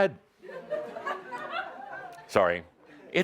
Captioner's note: some laughter